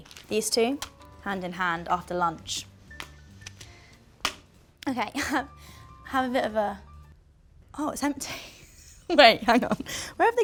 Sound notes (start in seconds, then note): 8.3 Molly-Mae laughs